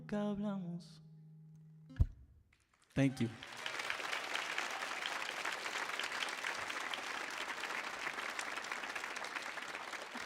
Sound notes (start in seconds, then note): 0.1 sings in Spanish; 2.8 audience applauds and cheers